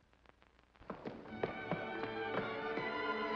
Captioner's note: Eddie's running footsteps; dramatic sentimental music